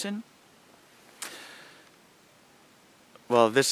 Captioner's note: pause